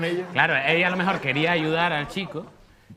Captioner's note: laughs